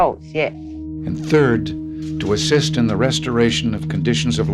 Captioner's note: soundbite of archived recording